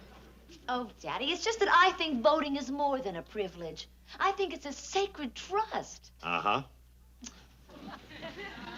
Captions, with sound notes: Oh, Daddy. It's just that I think voting is more than a privilege. I think it's a sacred trust. -Uh-huh. -(Ann tuts)